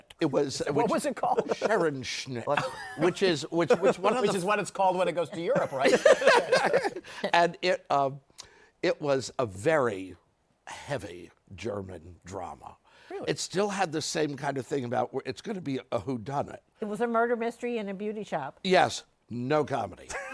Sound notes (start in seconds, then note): 5.2 laughter